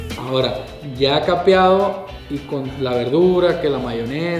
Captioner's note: western music; speaking Spanish